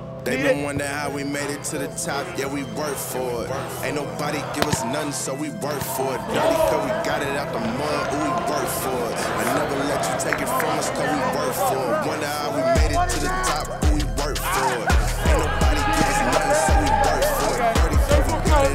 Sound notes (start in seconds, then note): 0.3 rap music; 8.6 yelling